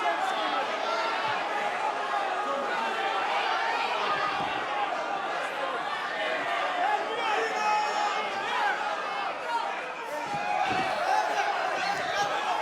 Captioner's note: crowd cheering